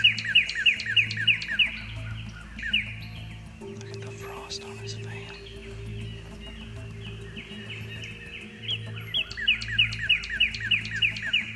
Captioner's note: whispering